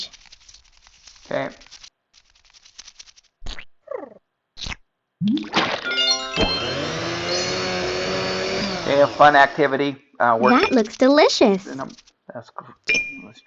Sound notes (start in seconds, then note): 0.3 wings fluttering; 6.3 blender blaring